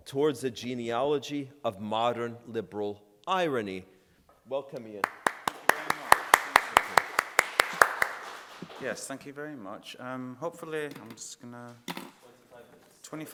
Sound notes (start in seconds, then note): 5.0 audience applauding